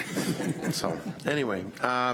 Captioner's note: audience laughs